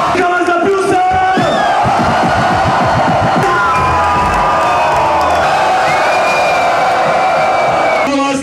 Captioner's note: screaming